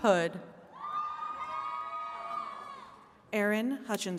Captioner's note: attendees cheering